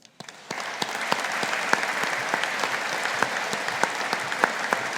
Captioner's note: audience applauding